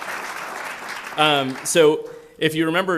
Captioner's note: applause